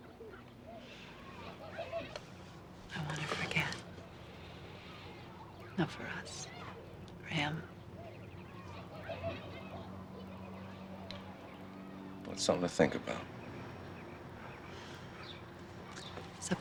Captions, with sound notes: - I wanna forget, not for us, for him. (birds chirping) (children laughing) - That's something to think about.